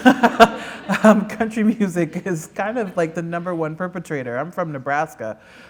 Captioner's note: laughter